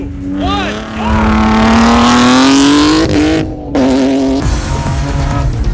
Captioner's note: car roaring loudly; upbeat intense music